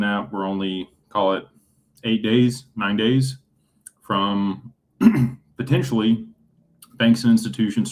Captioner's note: clears throat